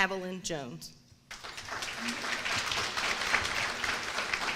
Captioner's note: applause